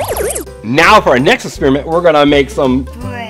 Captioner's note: futuristic noise